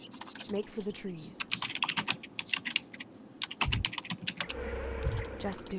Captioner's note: typing sounds